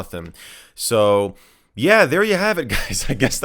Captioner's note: laughs